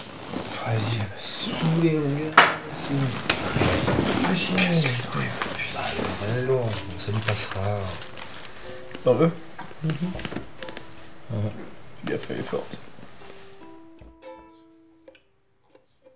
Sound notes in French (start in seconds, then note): 5.4 Antoine marmonne